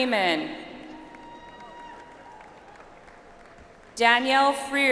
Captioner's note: audience applauds